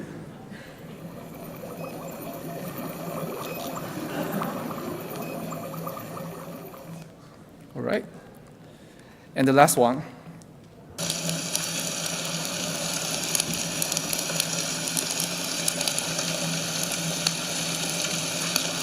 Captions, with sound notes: (boiling water) Alright, and the last one. (fire crackling)